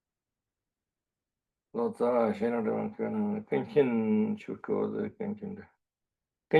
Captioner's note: tibetan